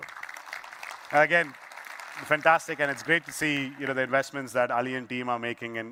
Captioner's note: applause